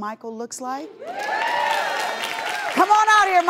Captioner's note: audience cheers and applause